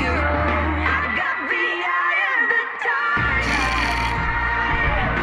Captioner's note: snickers